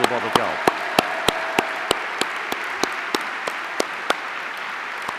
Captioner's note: audience applauding